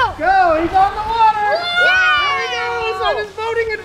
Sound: all shouting

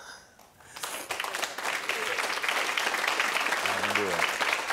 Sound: audience applauding

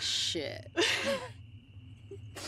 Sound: relieved laugh

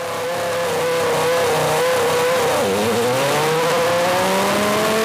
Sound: engine sound

